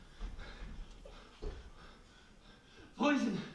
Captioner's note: breathing heavily